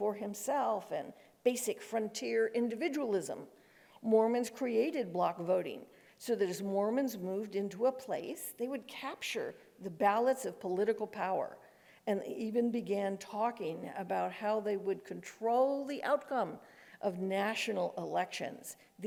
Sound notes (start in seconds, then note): none